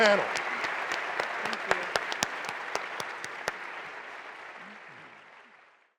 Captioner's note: applause